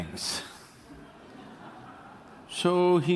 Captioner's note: laughs